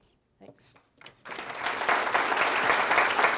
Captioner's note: applause